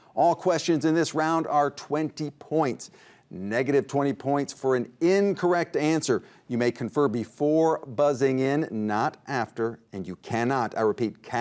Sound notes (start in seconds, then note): none